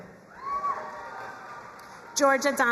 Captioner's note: crowd cheering and applauding